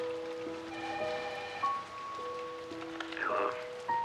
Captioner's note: telephone rings